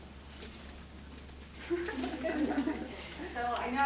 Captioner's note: laughing